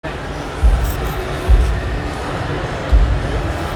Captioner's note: audience chatter